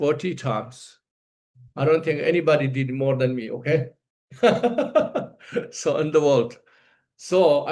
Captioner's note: laughs